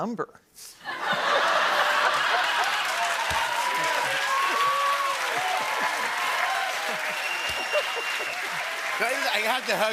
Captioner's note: laughter, cheers, applause